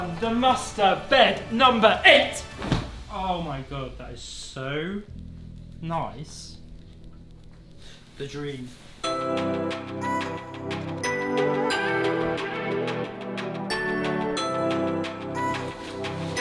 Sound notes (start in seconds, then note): 2.4 loud thud; 9.0 electronic pop music begins